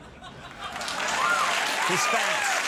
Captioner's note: crowd cheers